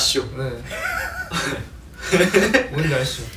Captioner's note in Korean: 웃음; 실소